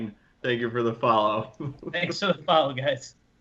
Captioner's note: laughing